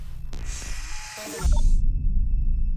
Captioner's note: static hissing